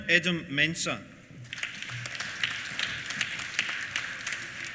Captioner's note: applause